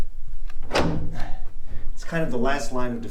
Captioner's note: bolt clicking